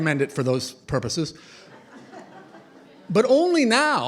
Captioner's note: laughter